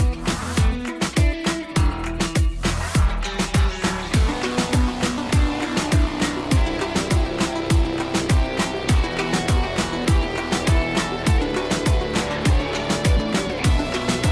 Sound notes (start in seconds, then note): none